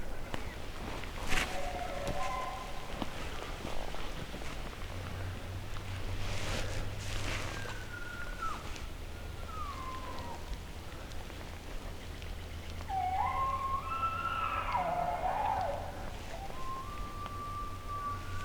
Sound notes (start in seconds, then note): 1.3 elk Bugle; 12.8 caller bugling; 16.5 elk Bugle